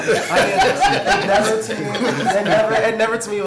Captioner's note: laughter